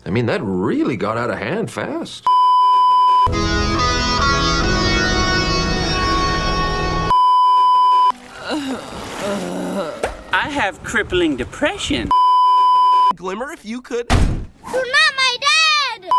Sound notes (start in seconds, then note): 2.3 beeeeeep; 8.2 sad moans; 12.2 beeeeeep; 14.1 slams table